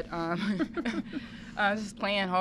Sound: laughing

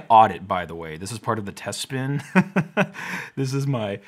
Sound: laughs

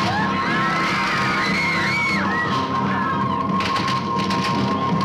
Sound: party goers screaming

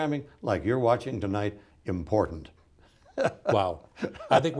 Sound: laughs

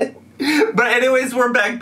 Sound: laughs

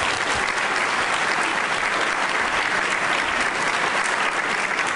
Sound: applause

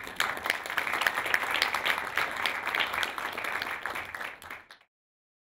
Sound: applause

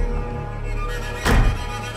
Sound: door Closing Sound

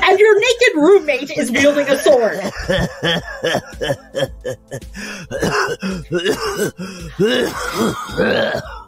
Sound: laughing and coughing and hacking

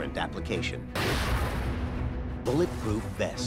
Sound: gun bangs

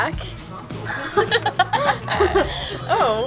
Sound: laughing

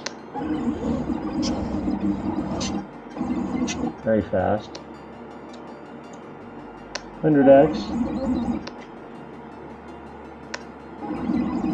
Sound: zooming noises

